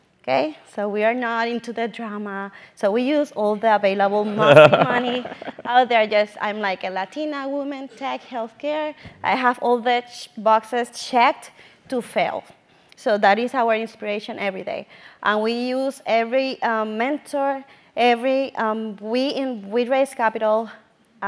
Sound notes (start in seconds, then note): 4.3 laugh